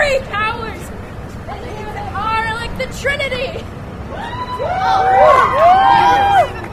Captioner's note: cheers